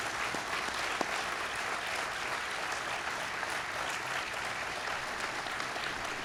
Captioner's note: applause